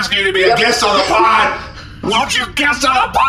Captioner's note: shouting hoarsely